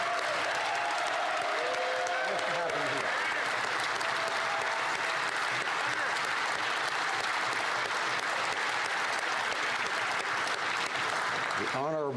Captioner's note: applause